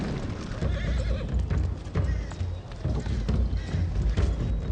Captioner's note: cannonfire explodes